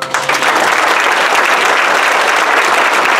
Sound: applause

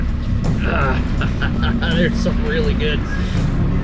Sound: laughs

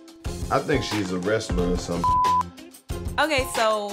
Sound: beep

